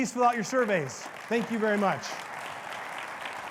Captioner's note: audience applauds